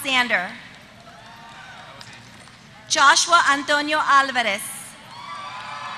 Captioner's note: applause